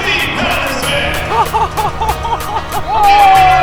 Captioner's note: laughs nervously